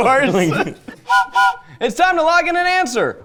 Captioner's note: train whistle blowing